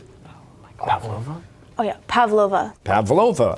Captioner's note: whispering